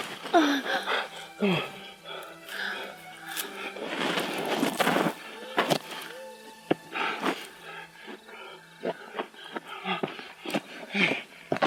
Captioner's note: breathing, struggling